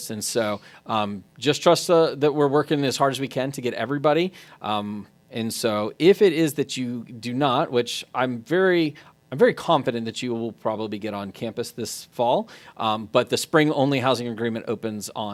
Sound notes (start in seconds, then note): none